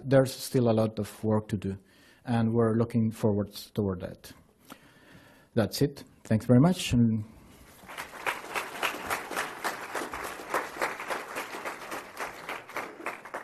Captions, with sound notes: but there's still a lot of work to do, and we're looking forward towards that. That's it. Thanks very much. (applause)